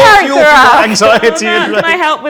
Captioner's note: overlapping chattering